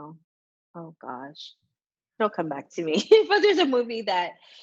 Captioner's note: laughs